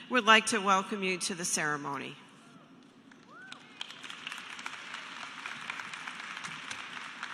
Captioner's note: applause